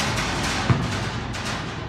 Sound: ceiling rattle

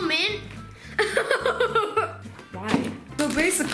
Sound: laughing

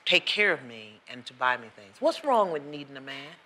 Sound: none

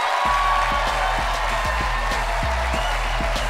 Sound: cheering and applause

